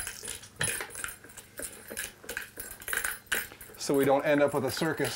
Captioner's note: reel rattling